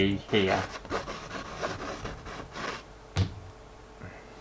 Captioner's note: pen Scraping On Canvas